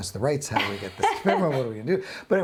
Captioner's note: laughs